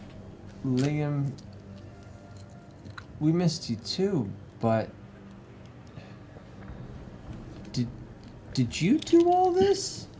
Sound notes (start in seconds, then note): none